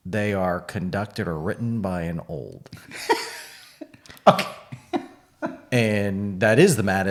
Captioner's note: laughing